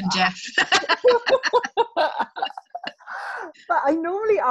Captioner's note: both laughing